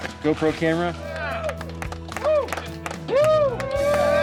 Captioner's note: cheering